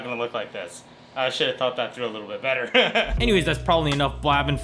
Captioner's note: laughs